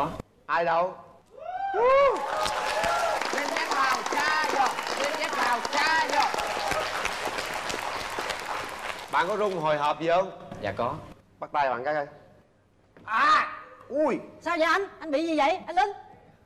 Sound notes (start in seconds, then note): 1.9 claps and applauses